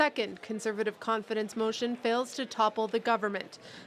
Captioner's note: speaking French